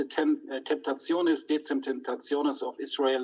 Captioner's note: speaks in foreign language